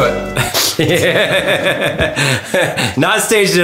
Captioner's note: chuckle